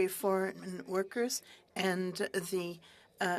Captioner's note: speaking french